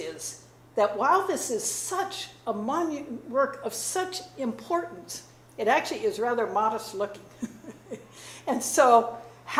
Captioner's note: chuckles